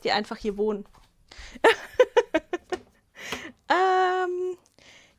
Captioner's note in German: Gelächter